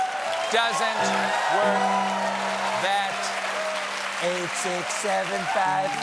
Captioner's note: cheers and applause; laughter